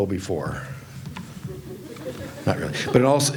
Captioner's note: audience chuckles